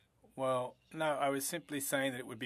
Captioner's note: speaking French